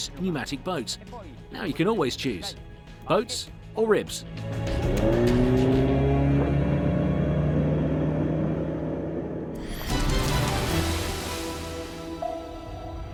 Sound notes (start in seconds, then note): 4.3 engine revs; 9.6 upbeat music